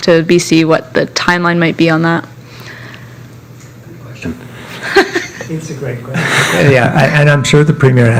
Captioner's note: laughter